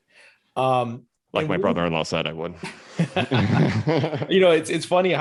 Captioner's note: laughs